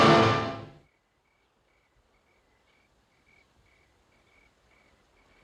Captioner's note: crickets chirping